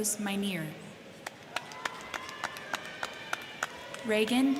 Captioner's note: crowd clapping; crowd cheering